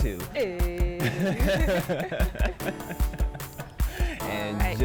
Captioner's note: both laugh